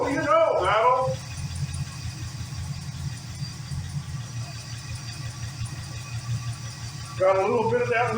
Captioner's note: engine idling